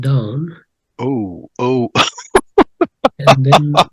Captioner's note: giggles